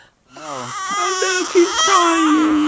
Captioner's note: baby crying